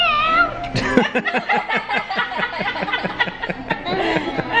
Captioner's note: others laugh